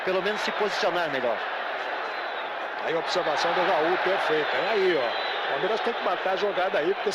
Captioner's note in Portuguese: aplausos